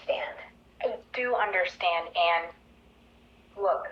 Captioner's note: on voice record